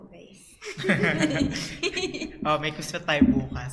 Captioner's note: laughs